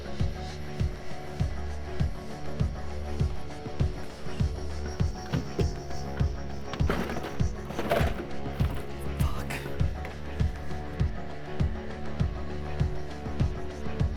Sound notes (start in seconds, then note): 7.1 drawer creaking; 7.1 stirring music continues; 11.0 stirring music